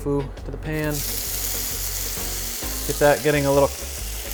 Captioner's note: tofu sizzling